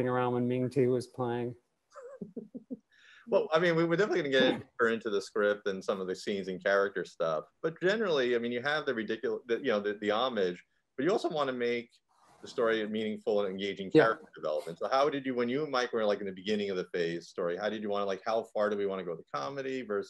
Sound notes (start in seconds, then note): 2.0 chuckling